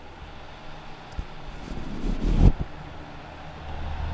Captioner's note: sound of adding dead cat windscreen; light wind noise